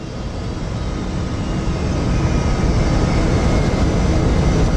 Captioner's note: aeroplane landing